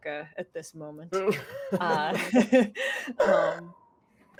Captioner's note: laughing